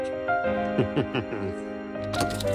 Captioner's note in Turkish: Gülüyor